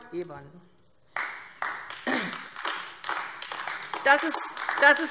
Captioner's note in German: Beifall AfD